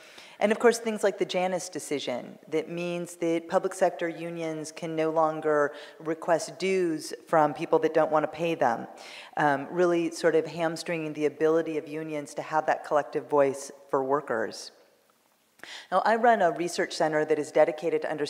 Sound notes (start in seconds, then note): none